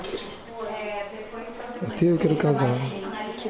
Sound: indistinct chatter in the background

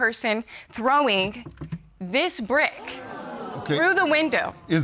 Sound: audience exclaims

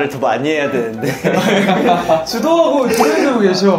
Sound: laughing

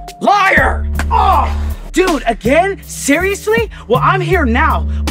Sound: grunt

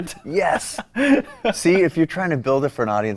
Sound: laughs

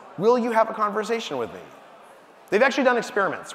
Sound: none

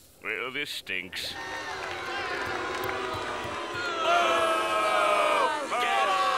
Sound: booing

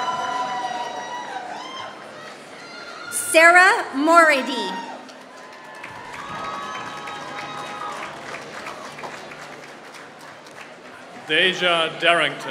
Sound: applause

